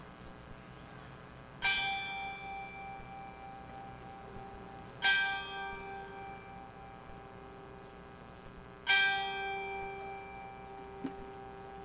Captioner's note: bell rings 3 times